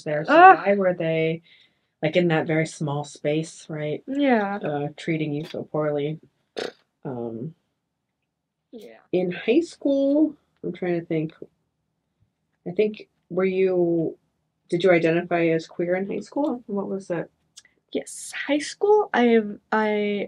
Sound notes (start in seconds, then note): 6.6 blows raspberry